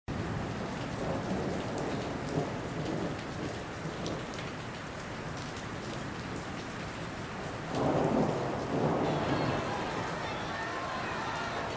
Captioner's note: rain, Thunder, and Screams